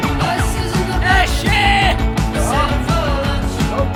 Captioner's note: yelling